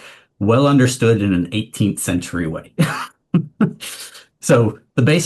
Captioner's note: laughs